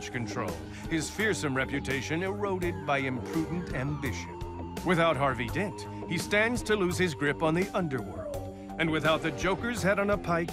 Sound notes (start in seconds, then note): none